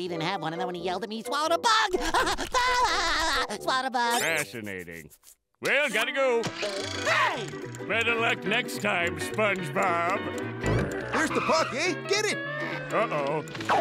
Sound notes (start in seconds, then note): 1.9 laughs